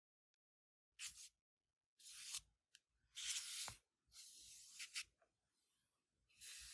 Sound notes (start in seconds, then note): 1.8 fingers lightly whispering across smooth surface